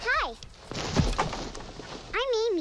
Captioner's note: branch clatters